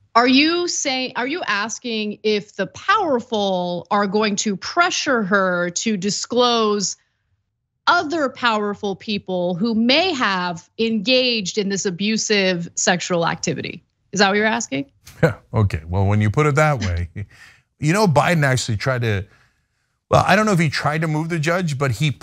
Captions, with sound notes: >> Are you asking if the powerful are going to pressure her to disclose other powerful people who may have engaged in this abusive sexual activity? Is that what you're asking? >> [LAUGH] Okay, well, when you put it that way. Biden actually tried to, well, I don't know if he tried to move the judge, but